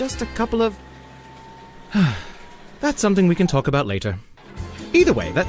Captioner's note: narrator sighs